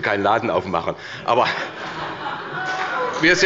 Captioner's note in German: Heiterkeit und Beifall bei der SPD und dem BÜNDNIS 90/DIE GRÜNEN